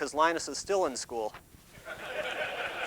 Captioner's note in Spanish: risa